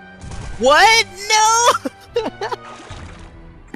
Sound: laughing

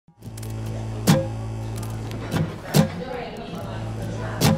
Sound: neon sign buzzing

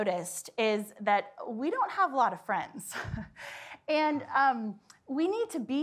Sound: laughs

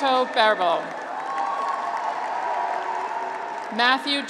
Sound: graduates cheer

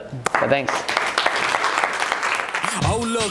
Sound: audience applauds

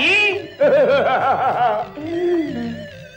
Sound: laughs

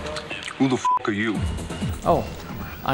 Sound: beeps

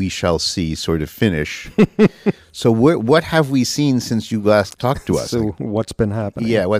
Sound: laughs

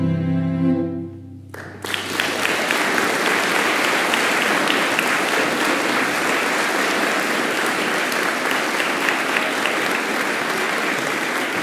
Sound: applause

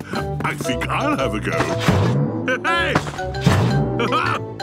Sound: laughs

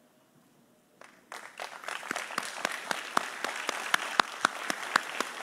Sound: audience applauding

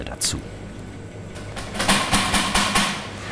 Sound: metal tapping

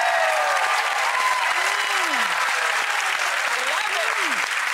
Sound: audience applauding

